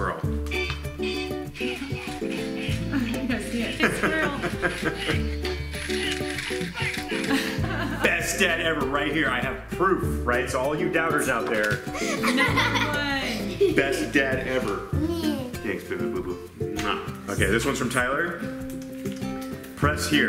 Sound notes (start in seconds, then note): 0.3 party music; 3.5 laughter